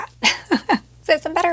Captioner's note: laughs